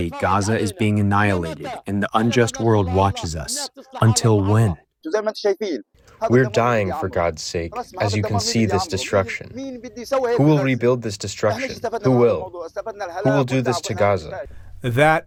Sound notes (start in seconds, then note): 7.1 through translator